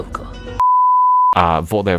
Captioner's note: beep